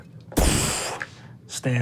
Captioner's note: whooshing